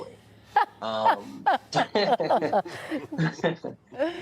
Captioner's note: people laughing